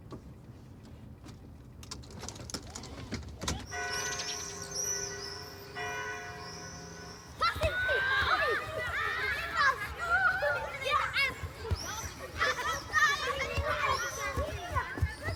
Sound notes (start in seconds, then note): 3.7 bell tolling